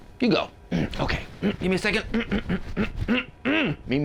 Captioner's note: clears throat